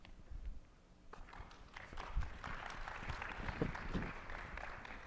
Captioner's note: attendees applauding